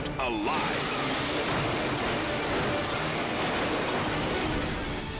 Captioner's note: cars crashing